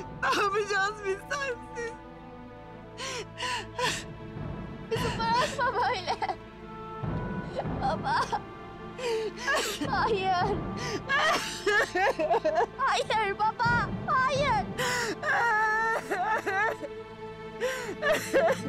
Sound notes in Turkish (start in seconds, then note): 2.9 Ağlama sesi; 11.0 Ağlama sesi; 14.7 Ağlama sesi